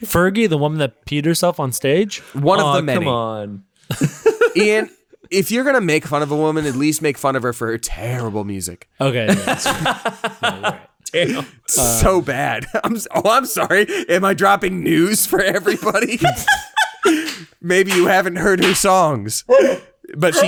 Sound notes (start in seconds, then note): 3.8 laughs; 9.2 laughing aloud; 16.2 laughing aloud; 17.0 claps